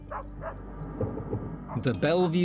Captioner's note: gentle music; dog barking; thunder rumbling